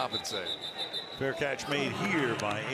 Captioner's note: whistle